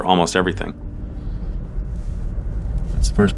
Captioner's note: light road noise